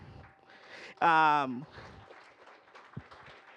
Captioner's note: applause